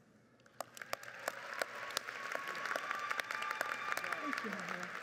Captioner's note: crowd applauds